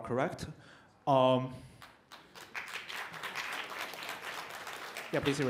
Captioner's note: applause